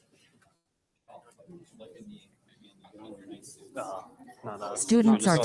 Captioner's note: people chatter indistinctly